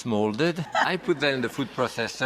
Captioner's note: audience laughter